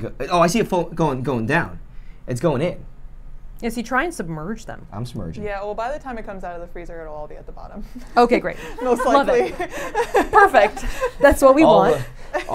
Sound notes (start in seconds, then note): 8.5 laughs